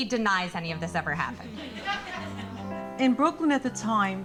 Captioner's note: audience laughing